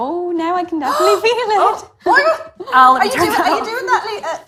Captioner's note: gasps